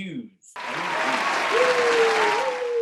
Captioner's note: applauding